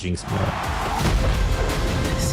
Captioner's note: crowd cheering